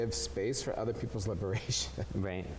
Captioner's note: chuckles